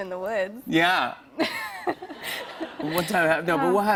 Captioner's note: laughter